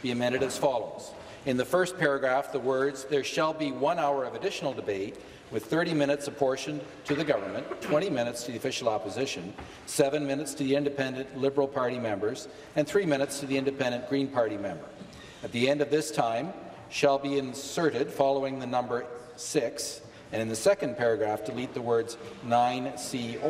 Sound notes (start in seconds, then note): none